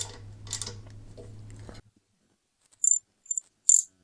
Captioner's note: clicking